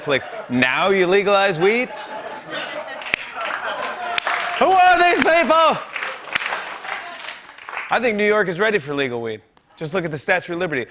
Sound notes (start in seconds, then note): 1.9 laughter and applause